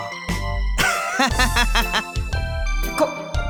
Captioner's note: laugh